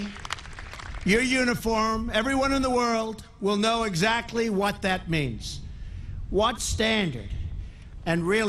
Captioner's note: applause